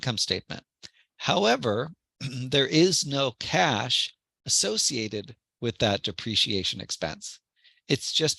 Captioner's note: cough